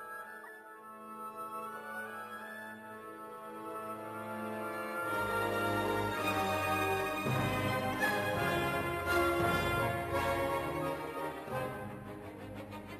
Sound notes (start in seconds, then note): none